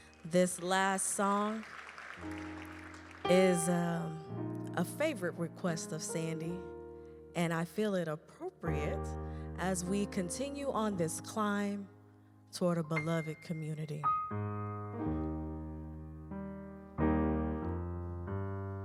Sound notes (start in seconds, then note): 2.2 audience clapping